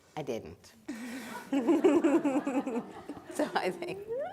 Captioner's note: people laughing